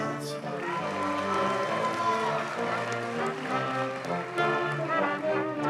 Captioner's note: audience cheers and applauds